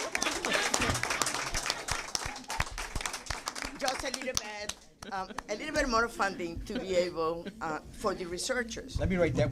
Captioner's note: applause